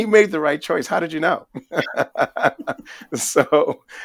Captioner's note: laughing